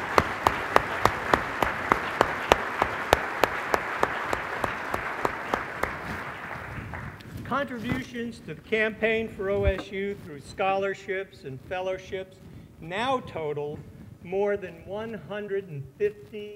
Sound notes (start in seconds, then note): 3.9 applause